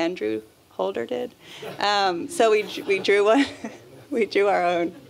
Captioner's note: laughter